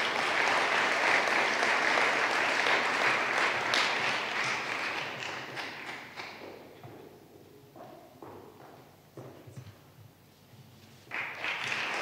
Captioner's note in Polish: oklaski